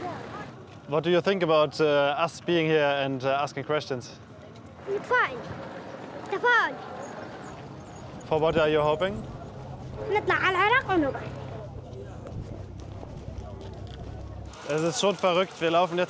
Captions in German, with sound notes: (Leises Stimmengewirr) Es ist schon verrückt,